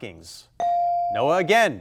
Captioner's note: buzzer chimes